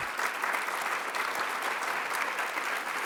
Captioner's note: applause